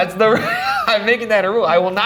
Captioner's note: laughs